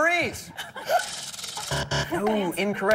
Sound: buzzer

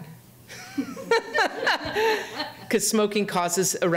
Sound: speaker and audience laughing

